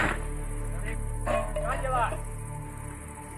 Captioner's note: indistinct shouting